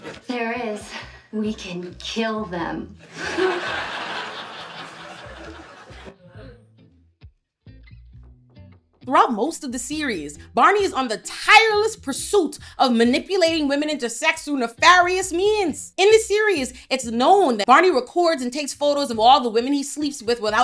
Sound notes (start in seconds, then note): 3.0 audience laughs; 7.0 upbeat music